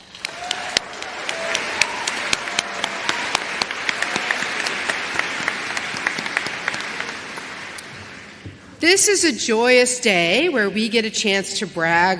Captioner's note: applause